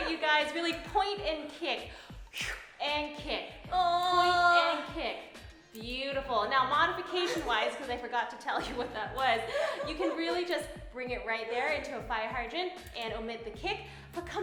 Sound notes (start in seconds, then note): 1.9 exhales; 3.9 groaning